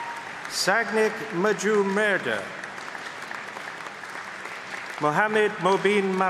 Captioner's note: applause